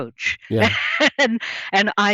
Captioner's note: laughs